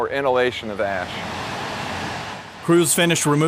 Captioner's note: rumbling